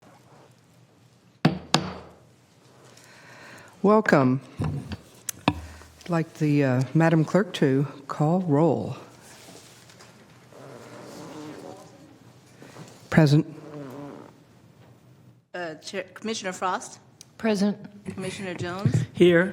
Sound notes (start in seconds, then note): 5.4 gavel